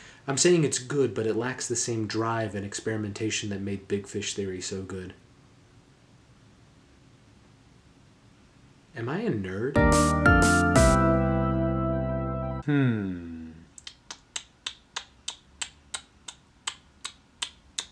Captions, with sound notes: I'm saying it's good, but it lacks the same drive at experimentation that made Big Fish Theory so good. Am I a nerd? (upbeat music plays) Hmm. (smacks lips)